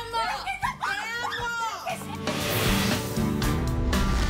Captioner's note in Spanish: gritos